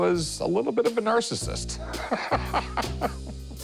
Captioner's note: laughs